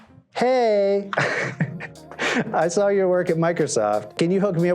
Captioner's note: laughter